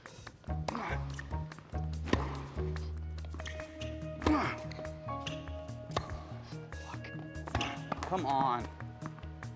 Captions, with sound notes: (Marshall grunting) (racket smacking) (rackets smacking) Fuck. (racket smacking) Come on.